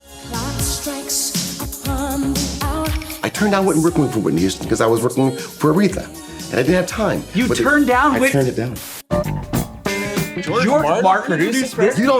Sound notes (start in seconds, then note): 8.7 jazzy guitar music; 8.8 static buzz